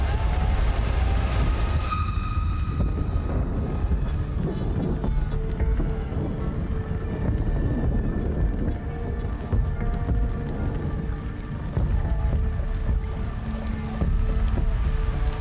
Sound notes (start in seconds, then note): 4.5 thunder rumbling; 7.3 dramatic music; 11.7 rain pattering